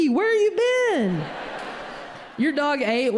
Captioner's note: audience laughing